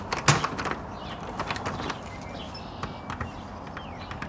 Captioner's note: doorknob rattles